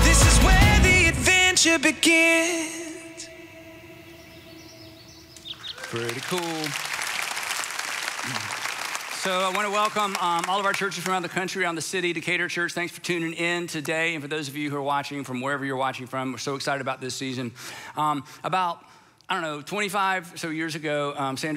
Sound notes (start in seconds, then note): 3.8 birds chirping; 5.5 audience applauds